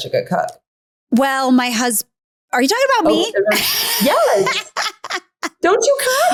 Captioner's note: laughs